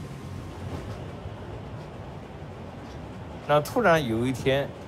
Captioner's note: train rumbling